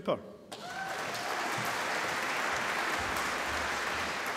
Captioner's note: applause